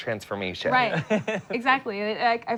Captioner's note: laughing